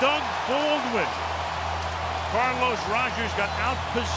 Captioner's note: cheering